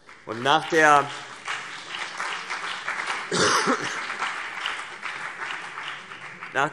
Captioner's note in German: Beifall CDU und BÜNDNIS 90/DIE GRÜNEN